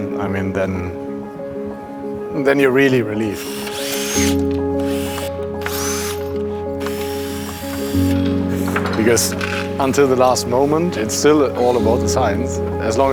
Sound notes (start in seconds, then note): 3.3 drill whirs; 8.7 bright music continues